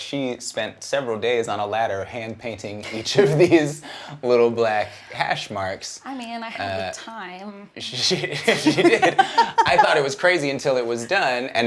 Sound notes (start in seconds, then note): 8.2 both laughs